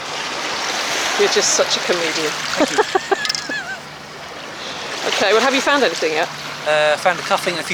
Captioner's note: laugh